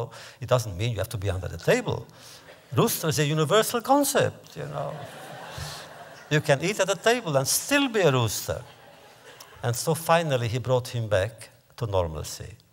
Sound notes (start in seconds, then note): 4.7 laughter